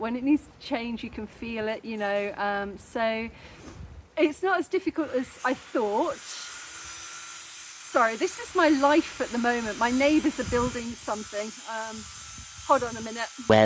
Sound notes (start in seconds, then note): 6.4 loud metal grinding